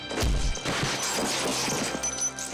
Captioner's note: body slams